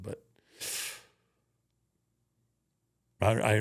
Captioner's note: Undertaker sucks teeth